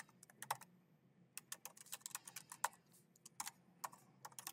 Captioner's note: keyboard clacking